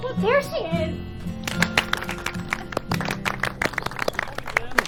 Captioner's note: group clapping